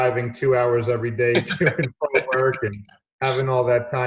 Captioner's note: both laughing